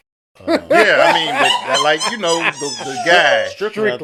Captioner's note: laughter